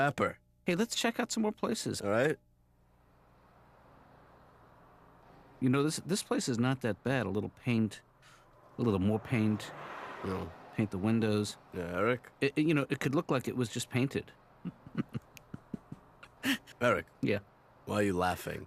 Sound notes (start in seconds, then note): 10.9 mutters; 14.6 laughs